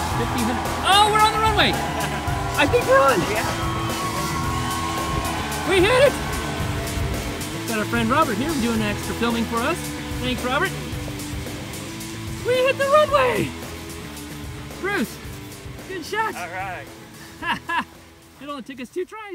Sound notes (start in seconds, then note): 3.7 fake crowd cheers!